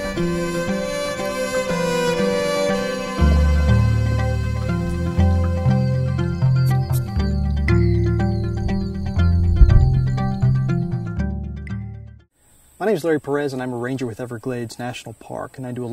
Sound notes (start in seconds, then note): 5.0 frogs calling; 9.3 thunder